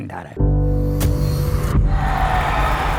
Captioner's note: fans celebrating a goal